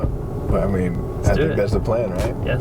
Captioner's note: voiceover